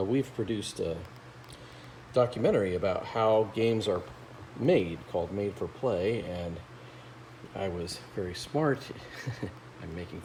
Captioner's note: laughs